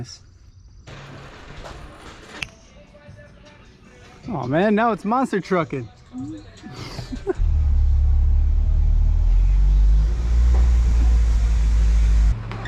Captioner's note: haha